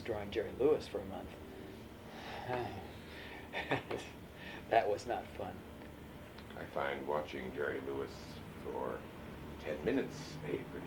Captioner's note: laughs